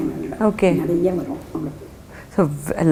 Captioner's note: in Tamil